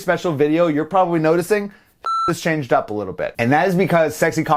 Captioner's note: beep